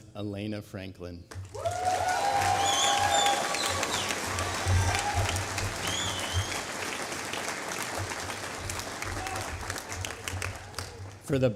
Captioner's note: applause